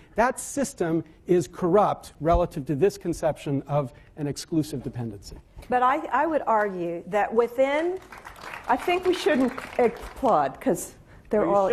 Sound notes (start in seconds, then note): 7.9 applause